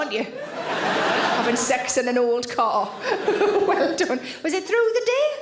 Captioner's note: audience laughing